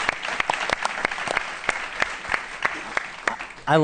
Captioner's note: applause